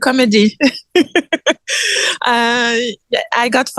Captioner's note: laughs